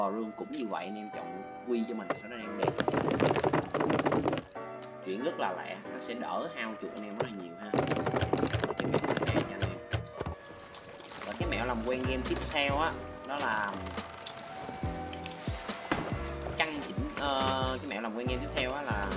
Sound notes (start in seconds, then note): 7.8 click